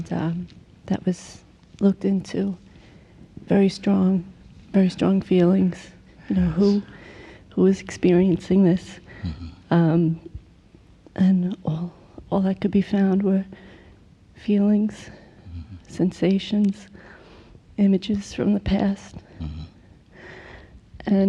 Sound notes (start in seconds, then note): none